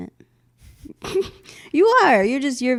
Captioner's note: laugh